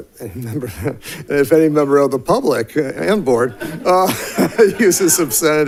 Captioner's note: laughs; laughs